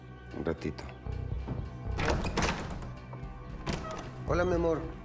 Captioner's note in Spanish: ruido al entrar